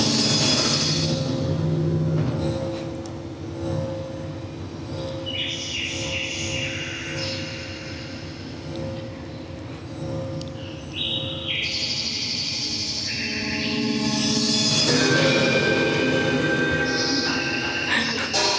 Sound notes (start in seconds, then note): 0.0 suspenseful sounds; 4.8 nature sounds; 13.9 sound of metal ringing